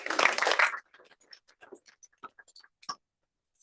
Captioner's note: applause